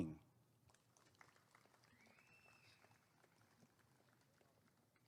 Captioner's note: applause and cheering